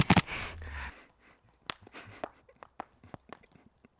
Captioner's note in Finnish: läähätys